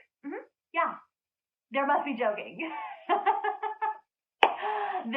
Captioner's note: laughing